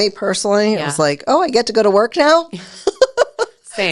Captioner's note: laughs